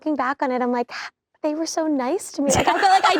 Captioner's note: laughing